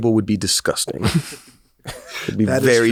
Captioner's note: laughs